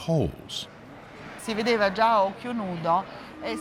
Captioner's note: speaking Italian